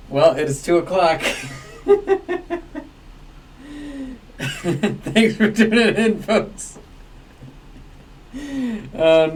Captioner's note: laughs